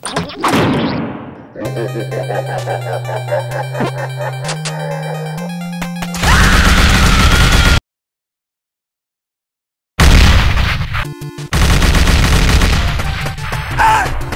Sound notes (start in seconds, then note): 1.5 evil Laugh; 10.0 boom